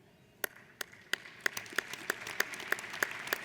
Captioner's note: applauding